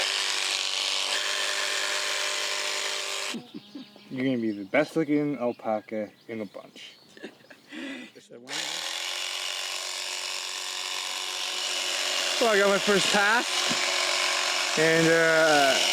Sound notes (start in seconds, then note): 8.5 buzzing